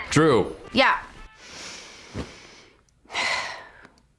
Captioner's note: sighs